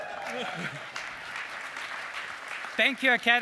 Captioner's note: cheering